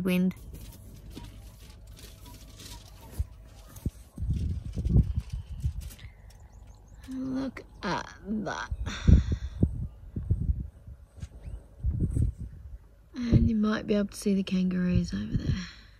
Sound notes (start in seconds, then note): 3.2 and, apparently, opening a packet of potato chips